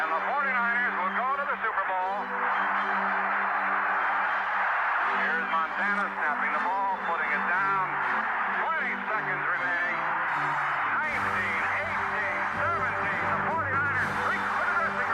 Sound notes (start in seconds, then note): 2.7 crowd cheering